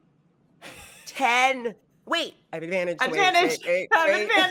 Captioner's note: laughing